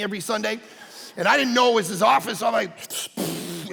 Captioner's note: puffing